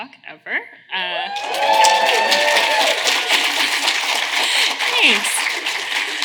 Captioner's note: audience cheering